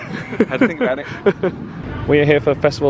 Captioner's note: laughing